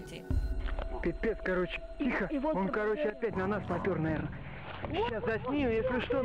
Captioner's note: local man and boy speaking in foreign language